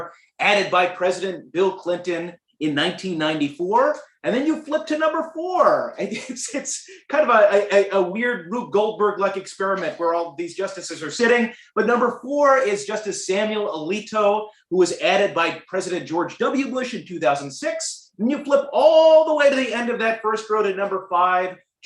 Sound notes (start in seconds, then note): 6.1 laughter